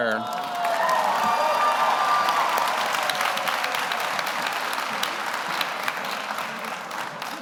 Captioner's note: audience applauds; audience cheers